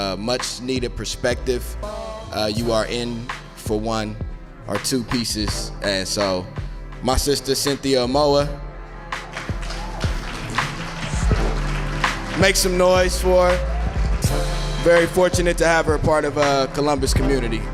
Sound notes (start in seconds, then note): 9.1 applause